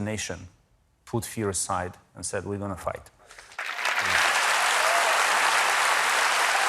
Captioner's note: applause